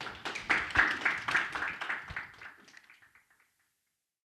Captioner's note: crowd applauds